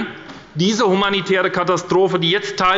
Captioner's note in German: none